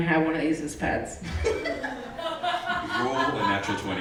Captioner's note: laughing